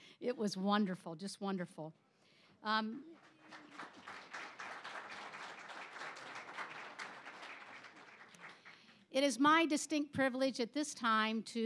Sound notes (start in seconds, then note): 3.1 applause